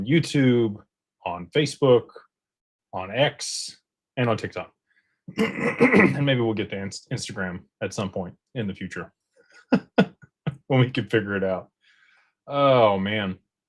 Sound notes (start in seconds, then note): 5.3 clears throat; 9.5 laughter